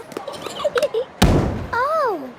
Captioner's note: giggling, thudding